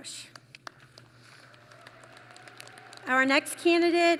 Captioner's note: applause